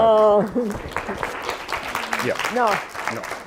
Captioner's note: applause